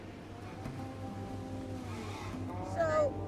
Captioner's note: boat motor revving